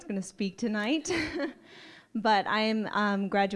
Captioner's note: laughing